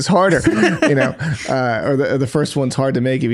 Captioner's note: laughing